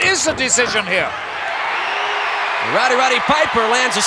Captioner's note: audience cheering